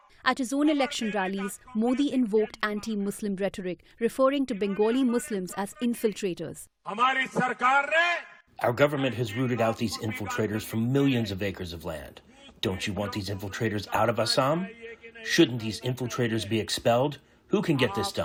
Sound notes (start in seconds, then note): 8.4 through translator